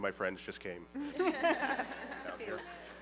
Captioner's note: laughter